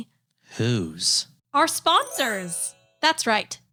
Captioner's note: magical sound